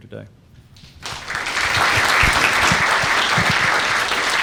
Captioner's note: audience applauding